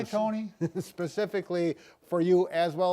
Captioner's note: chuckles